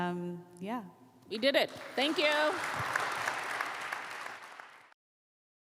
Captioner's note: crowd clapping